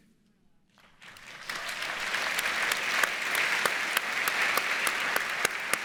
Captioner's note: audience applauds